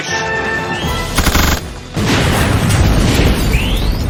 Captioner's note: shots Fired